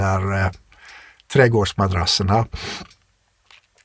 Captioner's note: scoffs